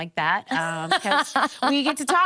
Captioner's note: laughing